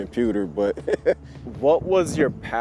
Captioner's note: laughs